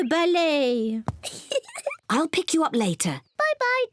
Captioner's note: giggles